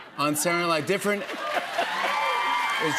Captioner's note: cheers and applause